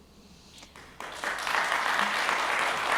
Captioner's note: applause